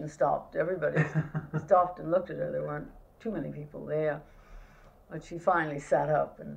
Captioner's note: laughter